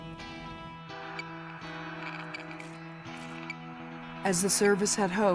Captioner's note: pensive music; tracking device beeping